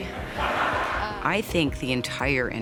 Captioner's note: laughter